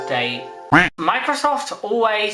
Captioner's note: quack